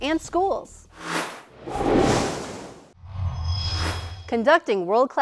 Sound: sound Effects

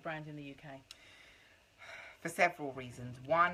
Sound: sighs

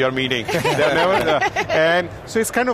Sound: laughing

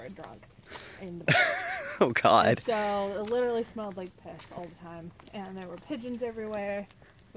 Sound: laughing

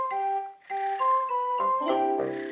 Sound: snoring

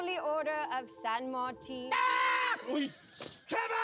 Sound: screams

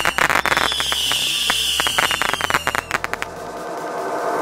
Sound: fireworks crackling; fireworks whistling; fireworks crackling; energetic dubstep music

